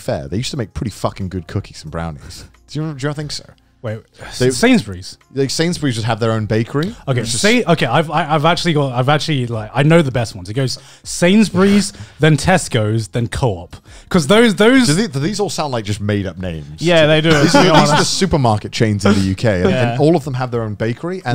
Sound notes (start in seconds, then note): 17.1 laughing